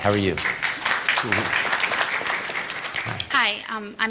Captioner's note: applause